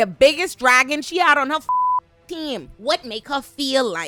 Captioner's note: beep